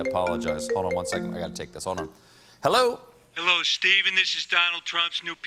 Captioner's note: phone rings